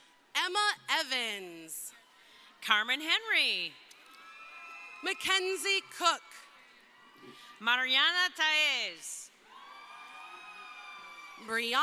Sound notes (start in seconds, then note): 3.9 crowd cheering; 9.4 crowd cheering